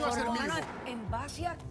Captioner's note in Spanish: se traba hablando